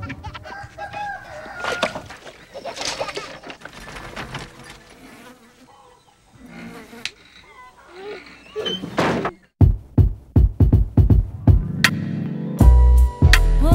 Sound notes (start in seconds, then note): 0.0 baby laughing; 0.0 chicken croaking; 2.5 baby laughing; 2.8 flies buzzing; 4.2 kids crackling plates; 8.4 banging door